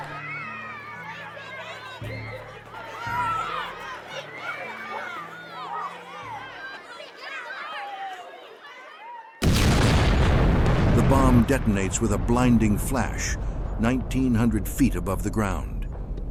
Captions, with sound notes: [children happily yelling] [Loud explosion] The bomb detonates with a blinding flash 1900 feet above the ground.